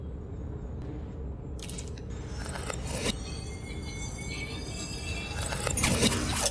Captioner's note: distorted sounds of computer malfunction